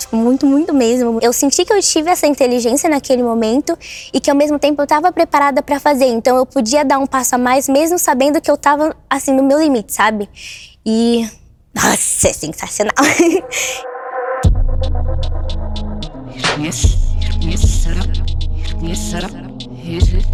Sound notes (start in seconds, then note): 12.9 laughs